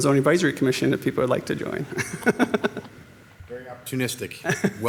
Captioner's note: laughs